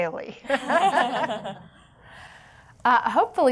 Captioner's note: laughing